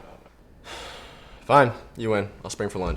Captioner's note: sighs